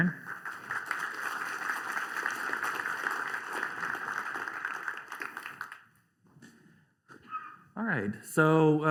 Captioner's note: applause